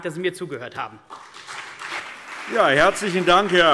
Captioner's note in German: Beifall CDU und BÜNDNIS 90/DIE GRÜNEN